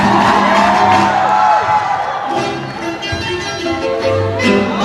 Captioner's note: audience cheering